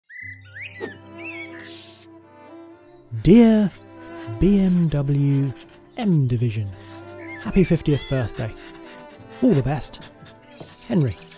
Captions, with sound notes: (birds chirping) (classical music) - Dear BMW M Division, happy 50th birthday. All the best, Henry.